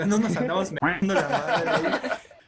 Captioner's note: cuack